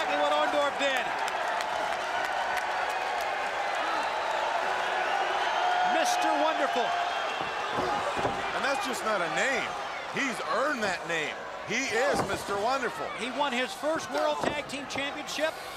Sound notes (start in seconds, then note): 2.0 crowd cheering